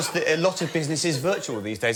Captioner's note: laughter